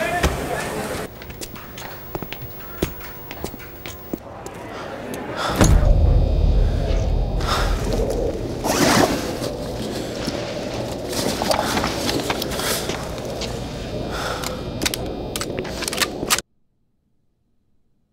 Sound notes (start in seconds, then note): 0.5 distant chatter outside; 3.8 heavy breathing; 13.6 weapon clicking; 16.4 silence